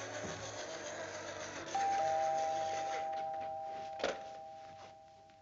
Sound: doorbell rings

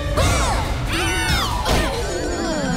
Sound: screaming

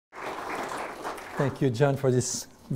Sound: audience applauds

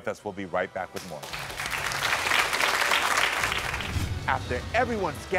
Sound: audience applauding

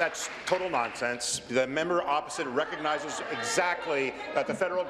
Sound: applause

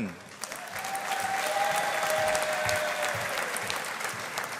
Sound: audience applauding

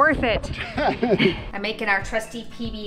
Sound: laughs

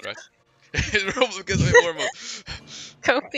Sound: haha

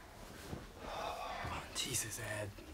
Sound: sighs

